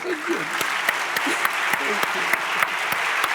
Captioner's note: audience applauds